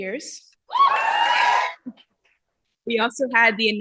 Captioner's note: cheering